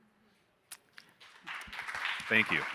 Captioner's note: audience applauding